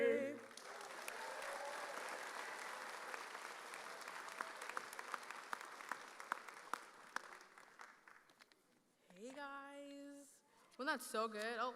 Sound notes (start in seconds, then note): 0.4 audience applauding